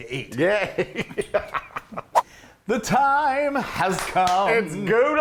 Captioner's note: laugh